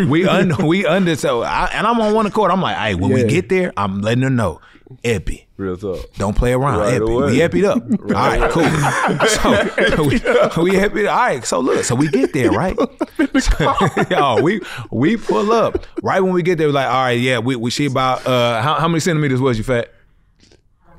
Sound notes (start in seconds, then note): 9.1 laughs